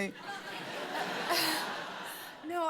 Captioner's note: laughter